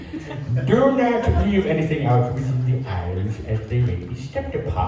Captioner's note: crowd chuckles